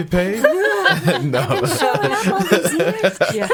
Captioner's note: laughing